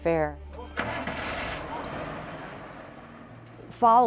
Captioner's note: bus engine starts